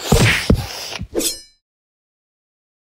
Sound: scratches

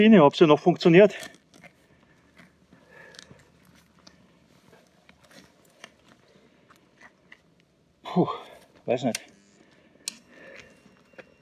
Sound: engine noise

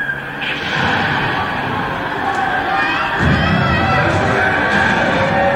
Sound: sounds of bombs and people screaming

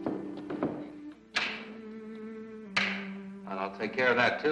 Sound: clicks light switch

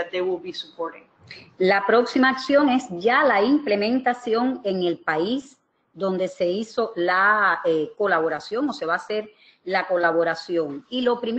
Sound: speaking another language

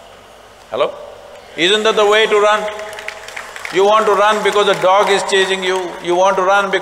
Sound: applause

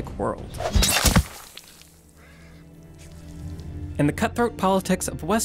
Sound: sword smashes; blood sputters

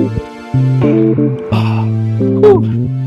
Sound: exhales sharply

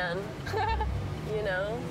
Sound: laughing

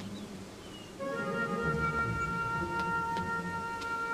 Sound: footsteps

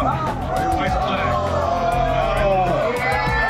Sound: shouting

